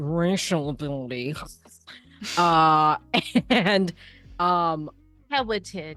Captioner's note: disgusted tone